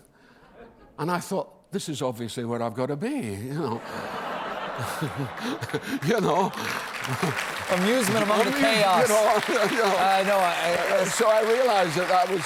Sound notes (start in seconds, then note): 3.7 laughter